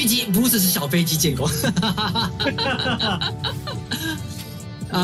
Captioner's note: laugh